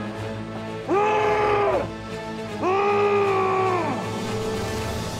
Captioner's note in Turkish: Müzik - Gerilim; Bağırma sesi